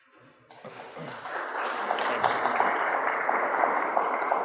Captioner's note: applause